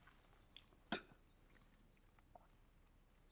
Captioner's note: spits